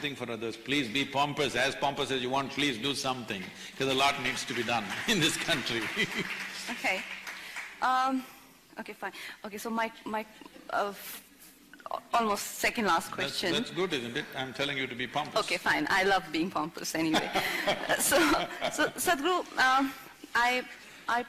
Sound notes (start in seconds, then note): 5.5 laughs; 6.5 applause; 17.0 few laugh; 17.1 Sadhguru Laughs